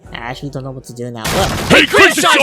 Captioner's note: door smash